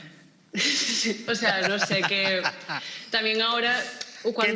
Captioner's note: laughs